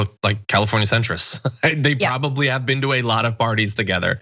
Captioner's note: laugh